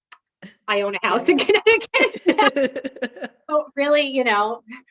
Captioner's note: both laughing